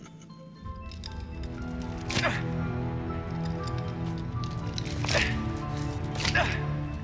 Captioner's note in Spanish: Zadrim riéndose; música sombría; William gruñendo